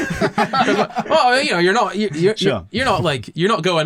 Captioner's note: laughter